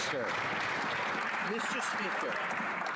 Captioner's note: some Applause